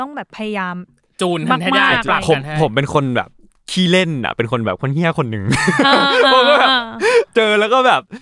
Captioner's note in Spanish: risas